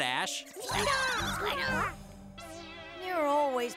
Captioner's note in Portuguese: todos balbuciando